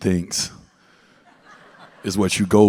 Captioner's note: audience laughs